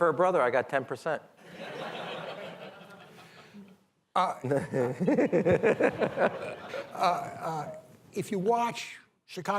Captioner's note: laughter